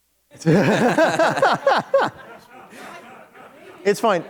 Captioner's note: laughter